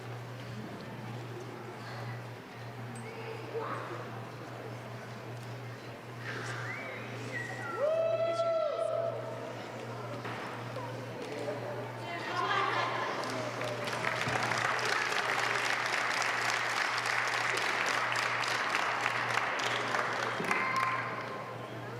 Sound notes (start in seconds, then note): 12.3 laugh; 13.0 applause